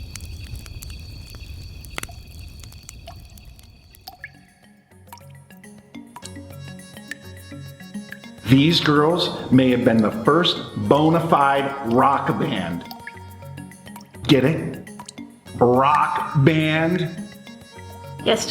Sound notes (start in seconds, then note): 4.3 water dripping; 6.4 gentle music